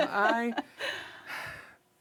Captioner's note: laughs